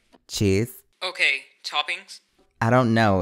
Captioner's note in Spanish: Voz en off